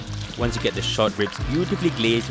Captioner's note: voiceover